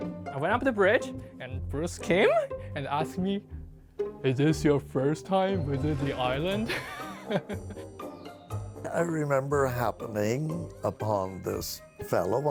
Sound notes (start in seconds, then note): 6.7 laughing